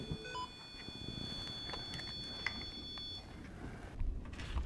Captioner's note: REM pod beeps; SLS beeps